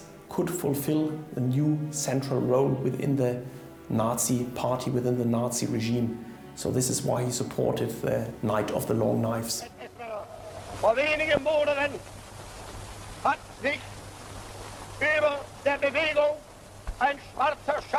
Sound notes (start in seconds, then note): 10.8 speaking German